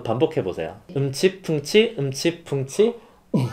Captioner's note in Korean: 비트박스